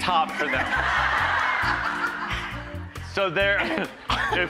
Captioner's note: audience laughing